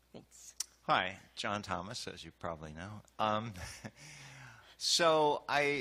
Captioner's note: voiceover